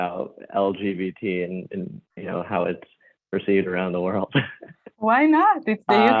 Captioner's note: laughs